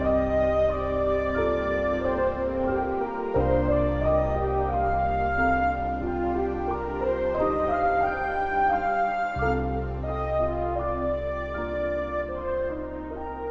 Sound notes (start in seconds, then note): none